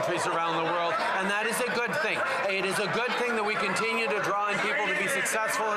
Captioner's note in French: voix de l'interprète